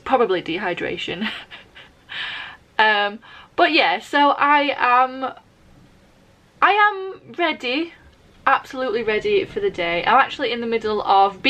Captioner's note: laughs